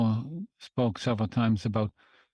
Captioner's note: speaking French